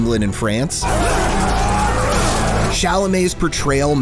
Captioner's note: men shout